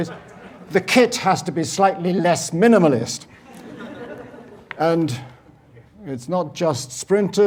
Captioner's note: laugh